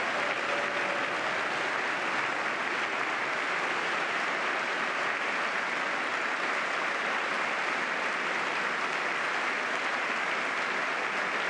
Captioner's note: applause